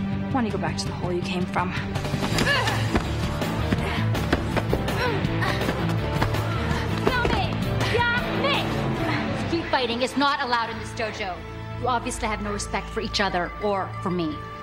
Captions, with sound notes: Why don't you go back to the hole you came from? (girls grunting) (sensei speaking foreign language) - Street fighting is not allowed in this dojo. You obviously have no respect for each other or for me.